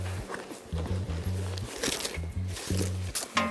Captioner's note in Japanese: がさがさ…